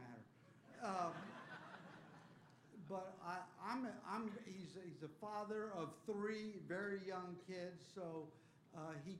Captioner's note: laughter